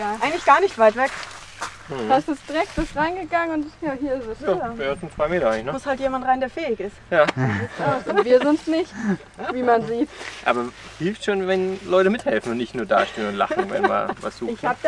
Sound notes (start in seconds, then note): 10.2 laughter